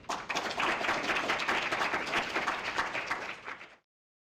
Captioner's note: applause